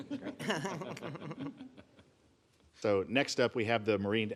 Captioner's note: laughter